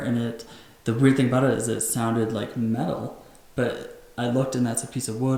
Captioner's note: none